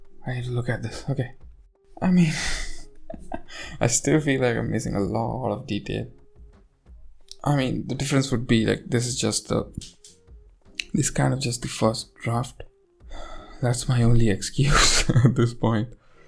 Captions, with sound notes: I need to look at this, okay! I mean-- (laughs) I still feel like I am missing a lot of detail-- I mean the difference would be like-- this is just the-- This is kind of just the first draft. That's my only excuse at this point.